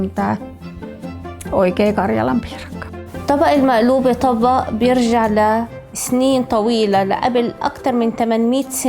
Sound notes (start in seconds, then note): 3.4 woman speaking in foreign language